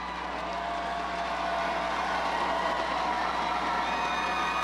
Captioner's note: crowd cheers